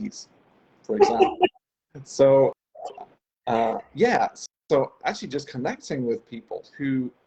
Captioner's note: laughs